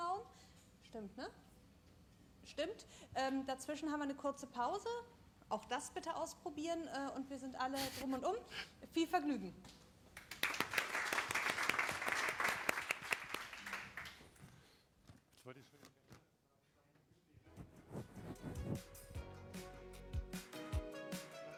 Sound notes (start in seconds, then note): 10.1 applause